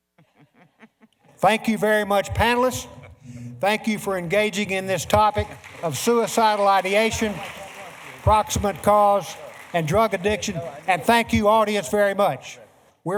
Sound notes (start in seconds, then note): 5.4 applause; 7.5 applause